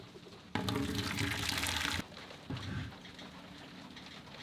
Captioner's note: water pours